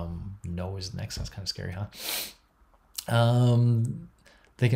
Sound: sniffs

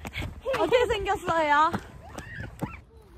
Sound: screaming

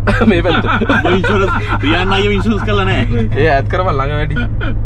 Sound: laughing

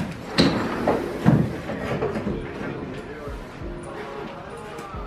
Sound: door closes; door opens and closes

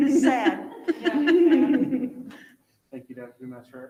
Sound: chuckles

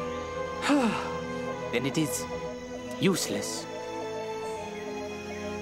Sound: sighs

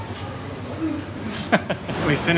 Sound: laughs

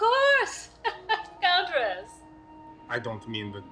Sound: fake laugh

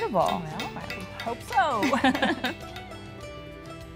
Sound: laughter

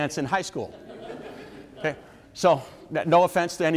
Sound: audience members laugh

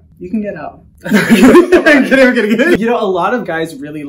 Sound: laughter

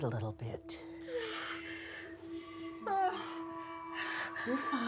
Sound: groaning

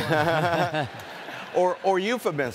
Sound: audience laughing

